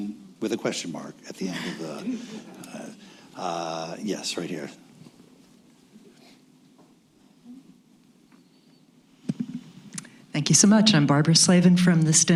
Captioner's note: laughter